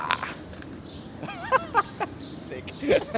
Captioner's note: laughs